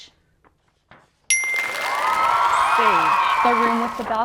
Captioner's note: chime and audience cheering